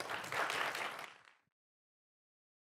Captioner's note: applause